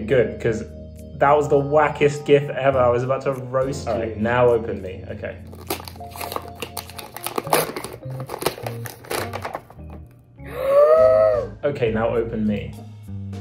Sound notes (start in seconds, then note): 5.4 package opening